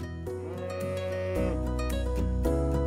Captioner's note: moo